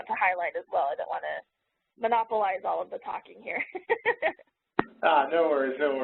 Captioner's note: laughs